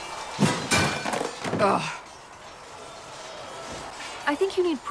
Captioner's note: ughh